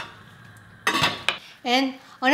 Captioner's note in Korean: 뚜껑 닫는 소리